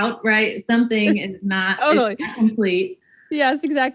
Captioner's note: laughs